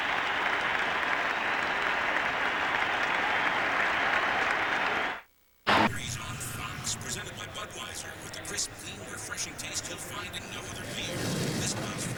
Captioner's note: cheers and applause